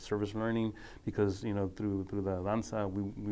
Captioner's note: speaking foreign language